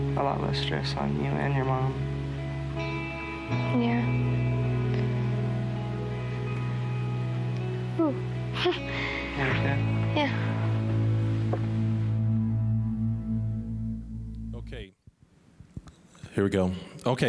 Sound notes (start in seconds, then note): 8.6 chuckling